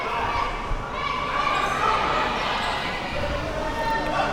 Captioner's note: crowd cheering